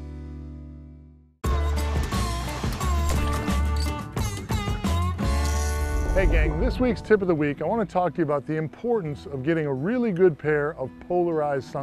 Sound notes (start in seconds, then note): none